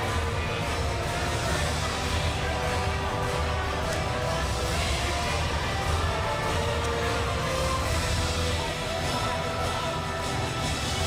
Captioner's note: crowd chatter